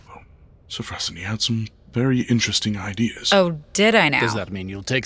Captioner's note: sarcastic